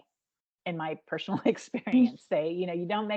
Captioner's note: chuckling